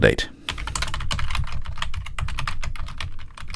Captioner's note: typing